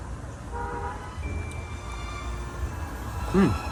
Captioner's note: car horn